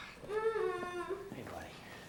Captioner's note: Christopher continues sobbing